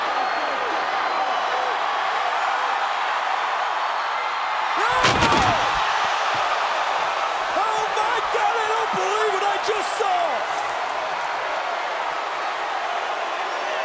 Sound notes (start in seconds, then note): 0.3 crowd cheers; 4.8 table crashes; 11.2 crowd cheers